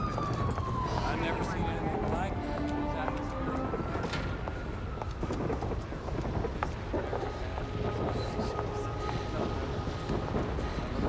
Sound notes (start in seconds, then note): 3.4 footstep